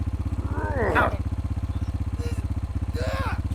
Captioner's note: grunting